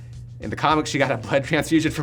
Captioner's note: laughing